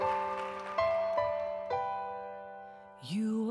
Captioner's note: applause; piano music